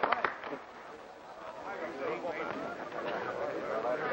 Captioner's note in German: Applaus